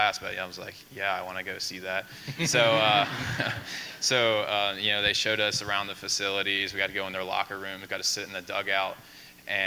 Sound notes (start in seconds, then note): 2.2 laughing